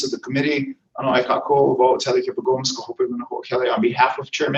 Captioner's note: foreign language